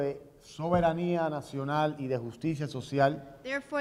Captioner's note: speaking in Spanish